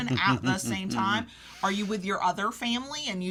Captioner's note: laughs